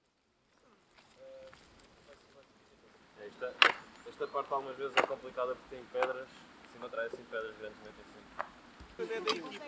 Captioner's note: speaking in foreign language